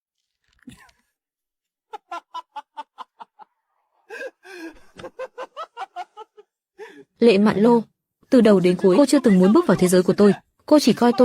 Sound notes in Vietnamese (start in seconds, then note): 1.8 tiếng cười